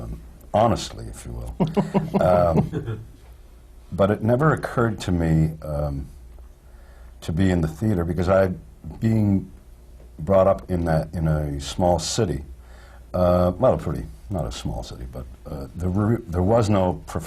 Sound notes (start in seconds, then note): 1.5 laughs